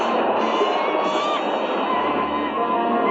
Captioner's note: bird shrieking